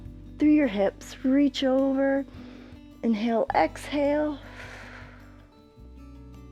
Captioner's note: exhales